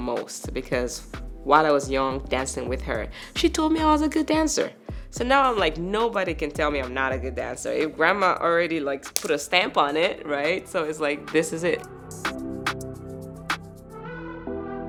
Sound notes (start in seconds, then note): 8.5 claps; 12.0 upbeat music